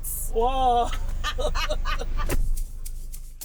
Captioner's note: laughing